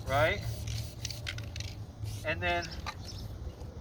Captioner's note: spray whistling